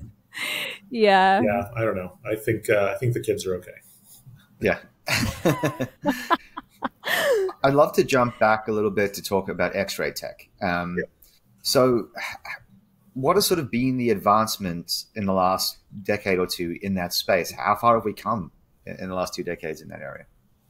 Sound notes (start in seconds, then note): 5.0 all chuckling